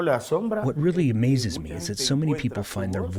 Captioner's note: through translator